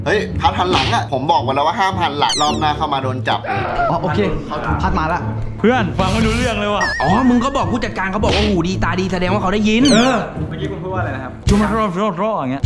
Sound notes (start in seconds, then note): 5.6 pat